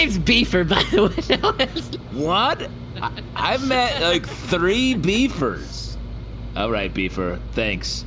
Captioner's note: end of sentence dissolves into giggling